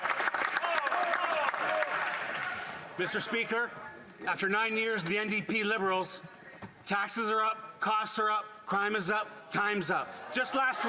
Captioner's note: cheering and Applause